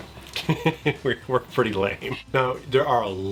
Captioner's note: laughing